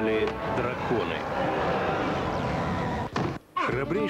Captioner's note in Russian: крик